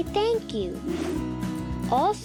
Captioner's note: whooshing sound